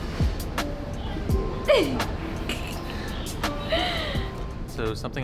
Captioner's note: giggles